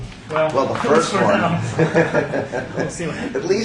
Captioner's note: laughs